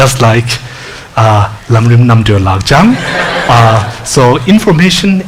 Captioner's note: speaks foreign language